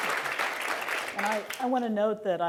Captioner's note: applause